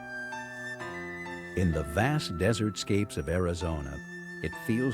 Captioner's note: voiceover